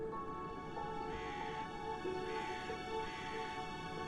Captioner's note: raven cawing